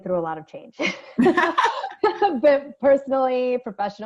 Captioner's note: ladies laughing